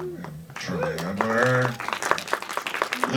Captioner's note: crowd applauds